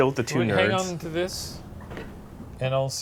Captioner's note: creaking